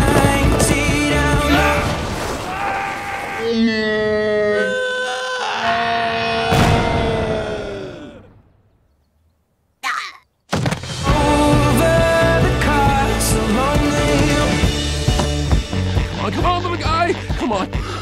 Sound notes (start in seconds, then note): 2.4 screaming; 2.4 both screaming in slow motion